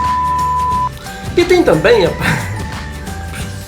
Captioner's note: laughs